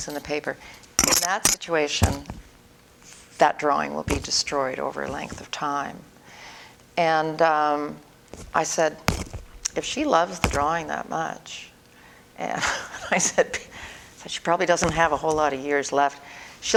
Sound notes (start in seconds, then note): 12.5 laughter